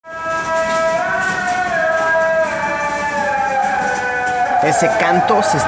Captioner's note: chanting